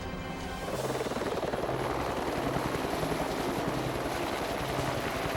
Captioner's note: helicopter whirring